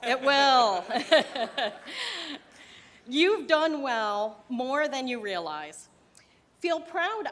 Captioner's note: laughter